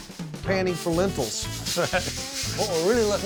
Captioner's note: rattling sound